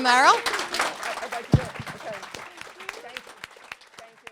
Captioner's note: applause